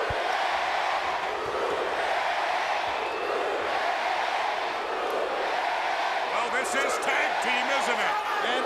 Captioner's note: crowd cheering